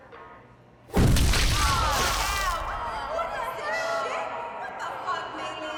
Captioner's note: women yelling